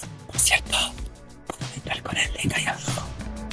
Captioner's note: whisper